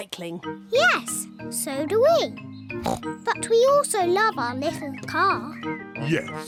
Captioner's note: snorts